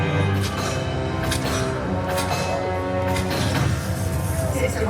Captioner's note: arrows launching